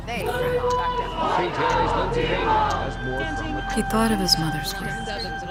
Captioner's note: agitated crowd chanting over news reporters